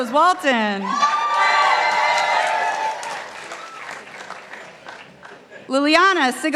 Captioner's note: participants applauding